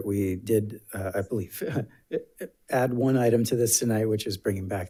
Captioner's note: chuckling